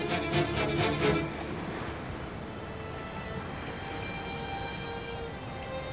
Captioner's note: wave tones